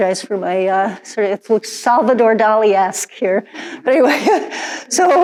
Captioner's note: laughs